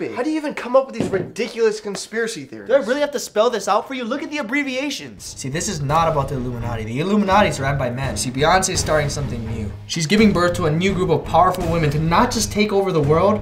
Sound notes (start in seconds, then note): none